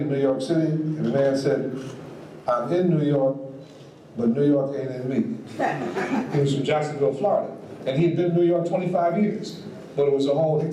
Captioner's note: audience laughs